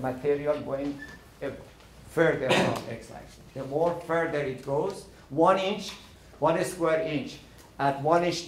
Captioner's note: coughing